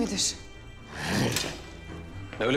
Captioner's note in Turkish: Hırlama Sesi